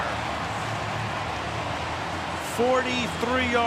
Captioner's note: cheering